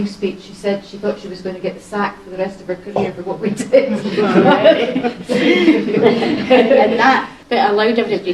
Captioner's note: laughter